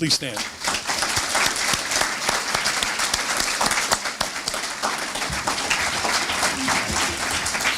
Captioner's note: applause